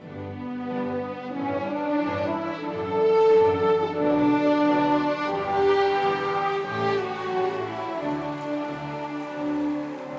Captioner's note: cheering and applause